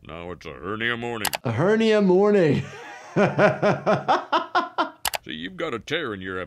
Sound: laughing

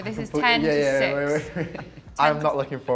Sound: chuckles

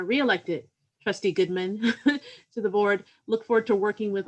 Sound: laughter

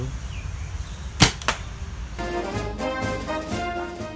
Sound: bullets firing

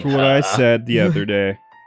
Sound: chuckles

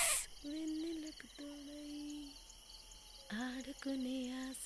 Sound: humming continues

